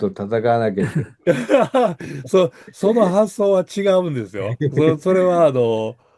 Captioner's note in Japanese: 笑い